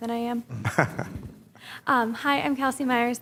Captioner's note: laughs